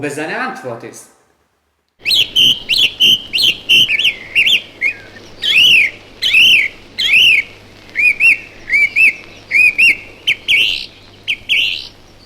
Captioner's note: a bird sings